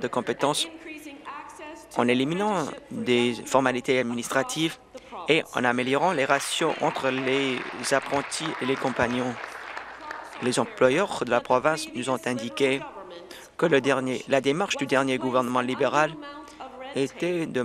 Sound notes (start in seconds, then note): 8.8 applause